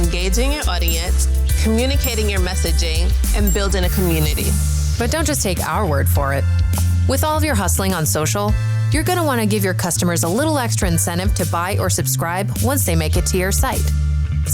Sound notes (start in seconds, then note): 0.8 bell dinging; 3.3 bell dinging